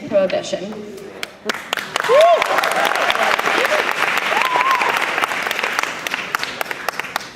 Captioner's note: applause